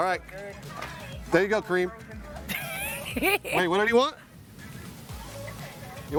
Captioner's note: laughter